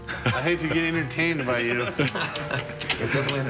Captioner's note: laughter